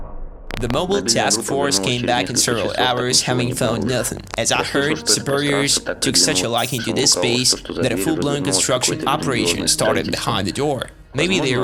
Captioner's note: static